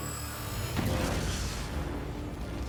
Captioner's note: explosion